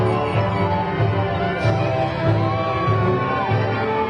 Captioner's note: crowd cheering